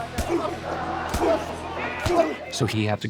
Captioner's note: grunting